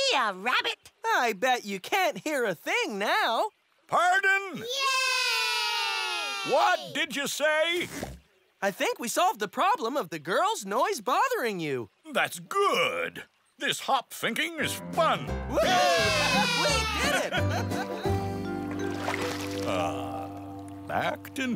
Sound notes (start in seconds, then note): 2.7 shouting; 5.5 shouting; 15.5 cheering